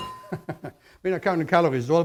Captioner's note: chuckles